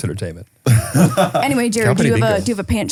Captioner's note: laughs